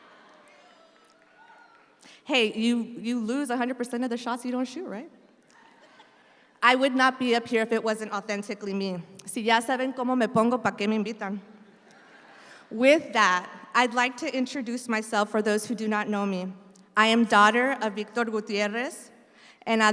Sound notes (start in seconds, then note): 9.5 speaks in Spanish; 11.6 audience laughs